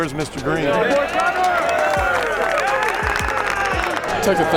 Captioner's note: cheering and applause